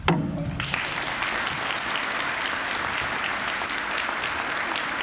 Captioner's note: applause